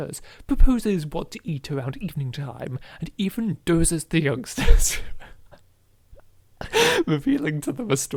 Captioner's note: cracks up laughing